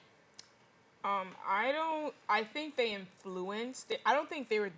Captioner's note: mm-mm